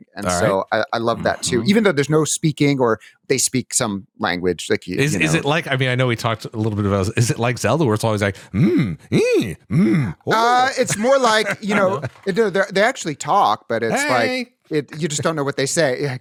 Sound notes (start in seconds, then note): 9.2 rhythmic humming